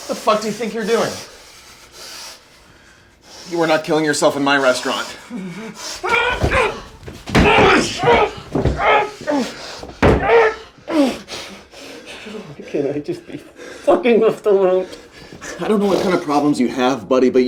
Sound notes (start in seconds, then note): 0.0 Mark panting; 6.0 Mark groaning; 7.3 Mark grunting; 11.3 panting